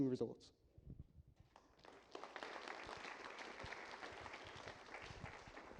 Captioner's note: applause